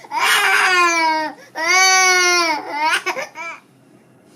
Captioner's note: baby crying